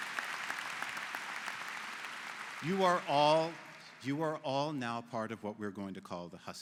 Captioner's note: �applause�